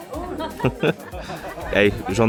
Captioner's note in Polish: laughs